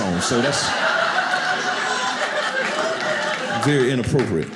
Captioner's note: audience laughing